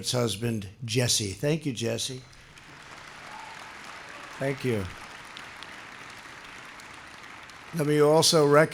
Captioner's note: applause